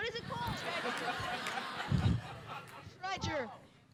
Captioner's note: audience laughing